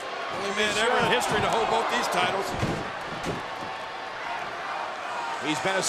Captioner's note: body thudding